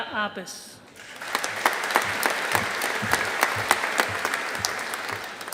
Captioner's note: audience applauding